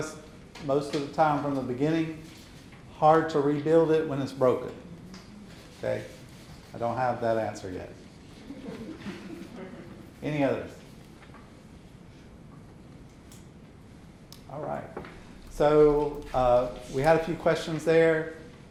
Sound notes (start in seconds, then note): 8.2 audience softly chuckling